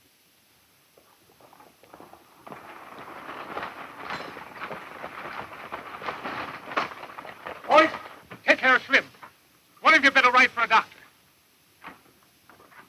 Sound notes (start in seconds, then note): 0.9 galloping hooves; 1.1 rattling wheels